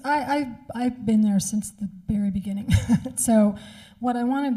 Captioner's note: chuckles